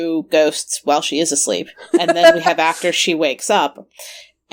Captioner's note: laughs